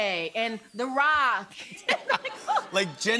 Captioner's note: laughter